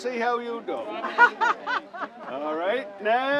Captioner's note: laughs